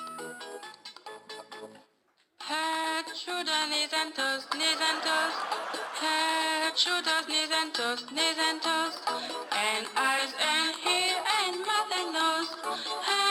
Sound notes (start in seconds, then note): 2.3 sung in a thick French accent; 8.4 audience laughs